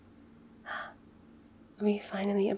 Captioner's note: small gasp